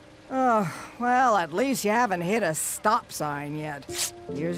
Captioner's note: sighs; tears paper